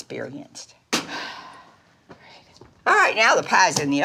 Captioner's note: Dory exhales